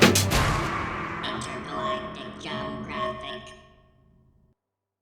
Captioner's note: robotic voice